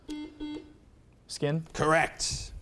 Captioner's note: buzzer beeps